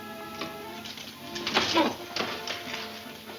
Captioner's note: grunting